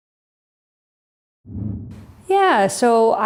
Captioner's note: air whooshing